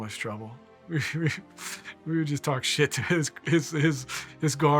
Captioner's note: laughing